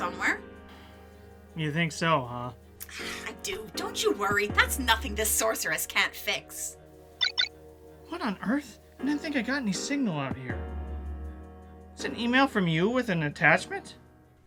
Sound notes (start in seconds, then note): 7.2 double shine phone alert